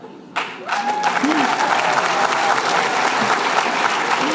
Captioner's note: applause